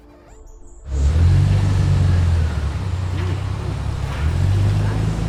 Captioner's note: car engine revving